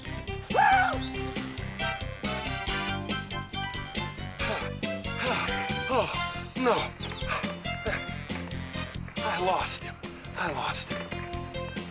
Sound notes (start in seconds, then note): 4.1 catching breath